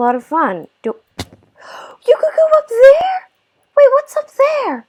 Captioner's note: gasp